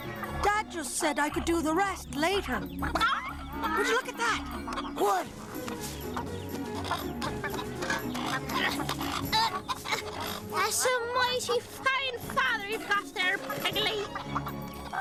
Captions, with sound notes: DAD JUST SAID I COULD DO THE REST LATER. [CLUCKS] WOULD YOU LOOK AT THAT? WHAT? [GRUNTING] THAT'S A MIGHTY FINE FATHER YOU'VE GOT THERE, PIGGLEY.